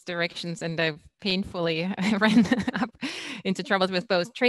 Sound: laughs

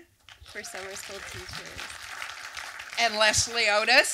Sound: talking over audience applause

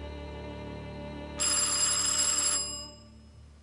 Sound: doorbell rings

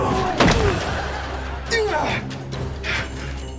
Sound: grunting

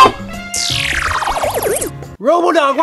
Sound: metallic swooshing

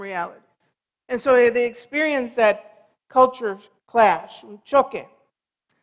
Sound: foreign language

